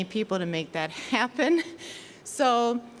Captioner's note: chuckling